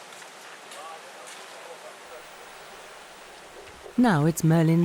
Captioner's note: people chattering